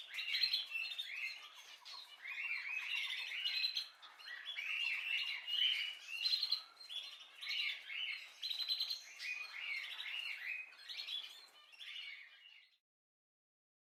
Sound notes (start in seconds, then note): 6.1 birds singing